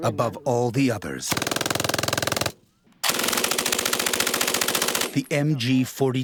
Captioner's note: machine gunfire